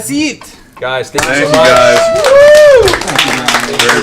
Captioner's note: cheering